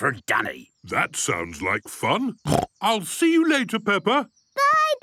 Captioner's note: snorting